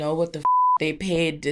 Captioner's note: beep